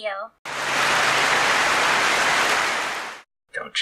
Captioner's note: clapping